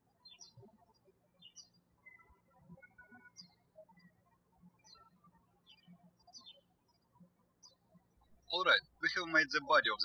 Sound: birds chirping

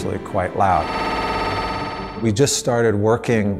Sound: MRI whirring

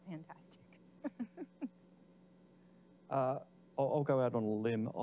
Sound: laughing

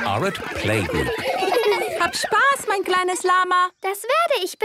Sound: laughter; speaking German

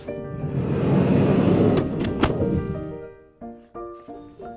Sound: car door clacking

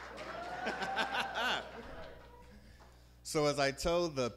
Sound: laughs

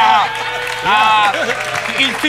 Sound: cheers, applause

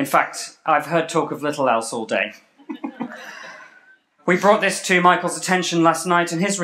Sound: laughter

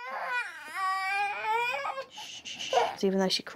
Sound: moans and cries

